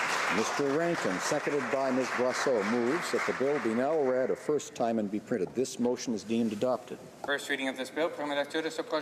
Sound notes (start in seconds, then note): 4.3 applause